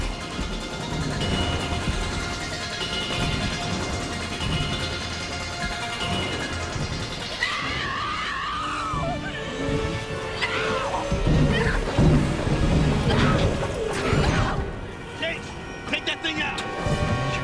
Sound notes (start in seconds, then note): 7.4 female scream; 9.7 scream